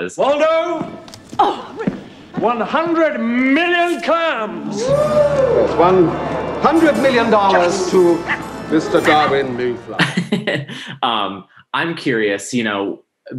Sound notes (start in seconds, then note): 4.9 audience rumbles; 10.2 laughs